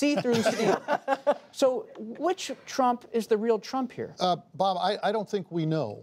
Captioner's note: laughter